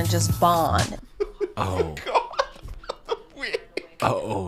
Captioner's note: laughing